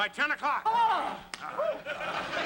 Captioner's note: yelps